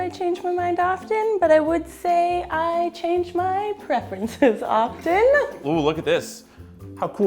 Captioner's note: laughs